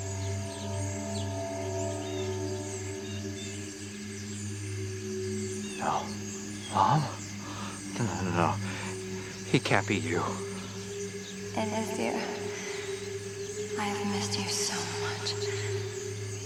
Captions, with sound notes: (Crickets Chirping Continues) No... Mom? No-no-no. It can't be you. (Echoing) It is dear. I've missed you so much.